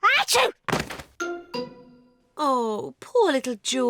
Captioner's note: sneezes